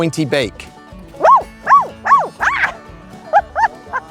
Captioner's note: squeaking